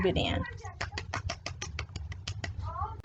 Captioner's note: clapping noises